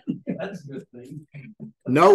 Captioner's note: laughter